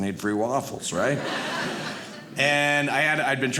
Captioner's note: audience laughing